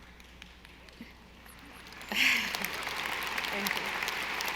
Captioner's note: audience applauding